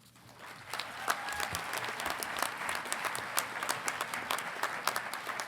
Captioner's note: congregation clapping